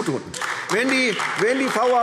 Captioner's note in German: Beifall AfD